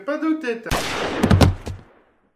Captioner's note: gunshot; heavy fall to the ground